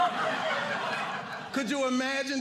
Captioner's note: audience laughing